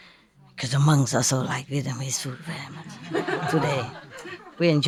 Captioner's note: Vietnamese